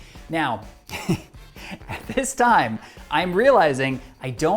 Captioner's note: laughs